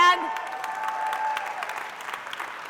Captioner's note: applause